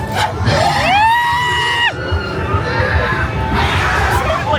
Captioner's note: guest screaming; everybody screaming; scareactor grunting